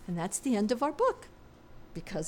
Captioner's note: none